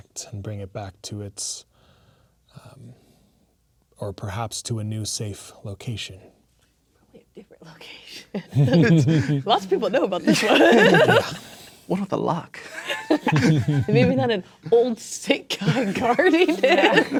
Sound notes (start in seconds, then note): 8.4 laughing; 12.8 players laughing